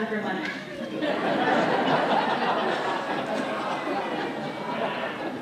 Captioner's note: laughter